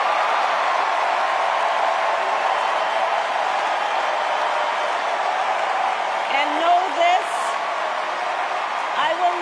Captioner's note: cheers and applause